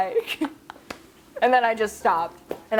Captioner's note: laughing